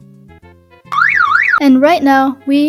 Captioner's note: car alarm